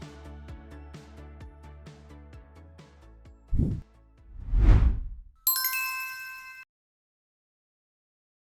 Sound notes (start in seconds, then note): 4.3 logo whooshing; 5.4 bells dings